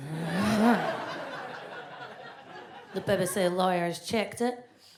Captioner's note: audience laughs